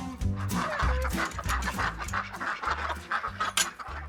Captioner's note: upbeat music; ducks quack